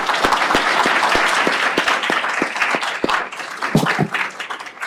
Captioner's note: applause